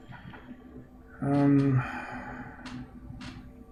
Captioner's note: sighing